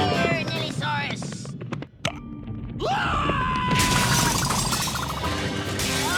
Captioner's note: suspenseful music; thief yells